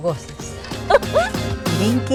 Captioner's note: laugh